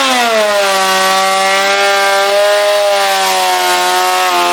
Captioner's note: planer grinds